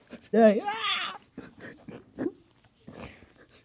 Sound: exclaims

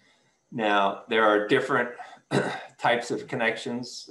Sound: clears throat

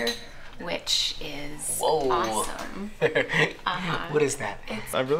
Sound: chuckles

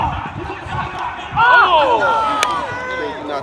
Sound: shouting

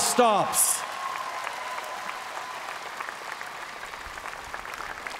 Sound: cheers & applause

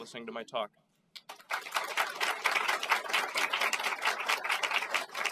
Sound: audience applauds

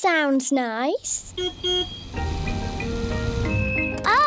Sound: car horn beeps

